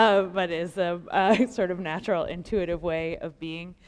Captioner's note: laughter